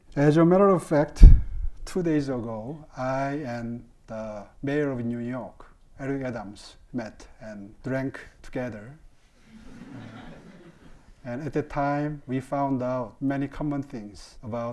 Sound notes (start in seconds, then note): 9.5 audience laughing